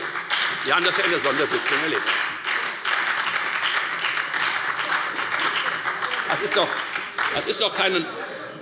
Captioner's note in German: Beifall und Heiterkeit bei der FDP und der SPD